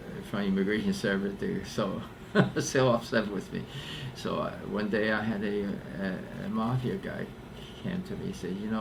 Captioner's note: laughs